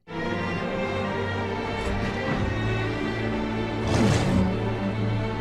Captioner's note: slow relaxing music; wings whooshing; dragon grunting